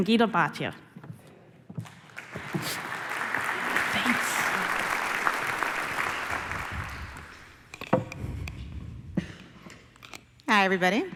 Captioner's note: applause